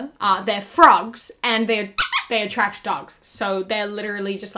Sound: squeak

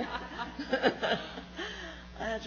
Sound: laughs

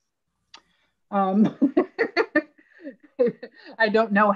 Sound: laughing

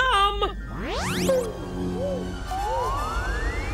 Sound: Hoob poofs; intergalactic music

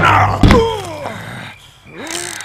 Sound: painful grunt

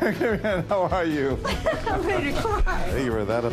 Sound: laughter

